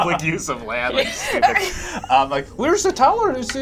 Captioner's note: laughing